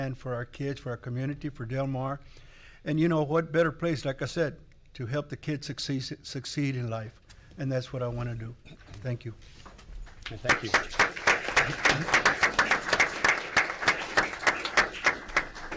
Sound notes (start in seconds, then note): 10.1 audience applauds